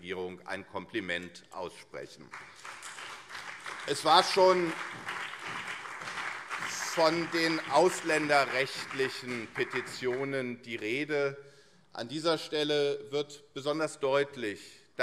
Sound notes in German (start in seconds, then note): 2.5 Beifall CDU, SPD und vereinzelt AfD